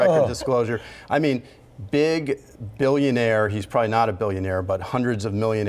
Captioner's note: laughter